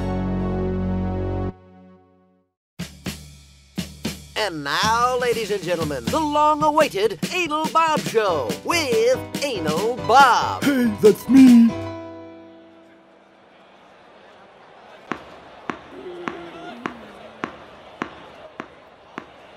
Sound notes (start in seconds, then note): 15.6 ball bouncing